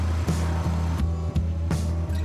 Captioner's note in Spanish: Ruido de una moto